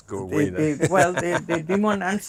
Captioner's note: laughing